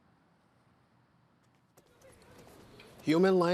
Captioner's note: students chattering